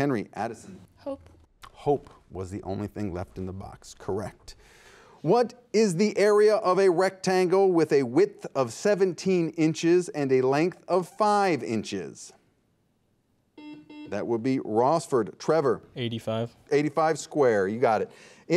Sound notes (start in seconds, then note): 13.6 buzzer beeps